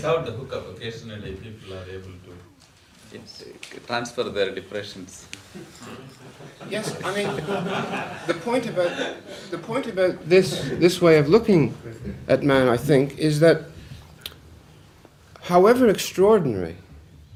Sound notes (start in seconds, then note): 5.9 laughter